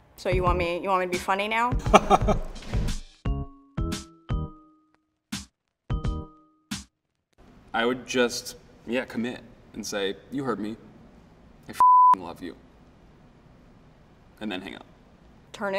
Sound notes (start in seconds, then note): 1.8 laughing; 3.5 easy music continues